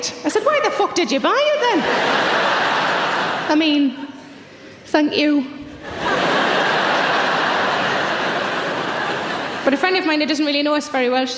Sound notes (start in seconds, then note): 1.7 audience laughs; 5.8 audience laughs